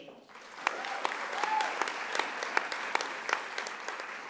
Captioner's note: audience applauding